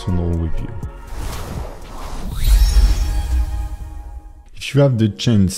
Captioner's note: logo whooshes